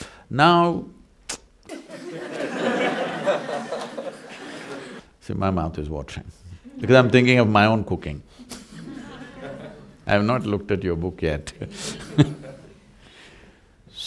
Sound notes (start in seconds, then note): 1.7 laughter; 9.4 laughs